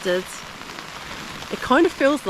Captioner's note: rain